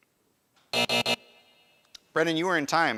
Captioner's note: alarm buzzes